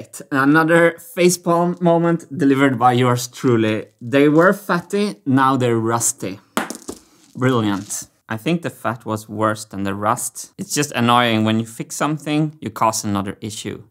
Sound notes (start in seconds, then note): 6.5 marble drops on the floor